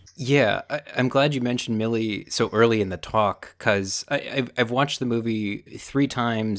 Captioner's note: none